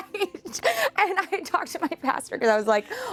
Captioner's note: laughs